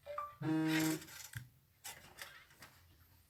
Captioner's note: phone notification